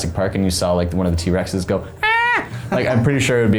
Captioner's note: screams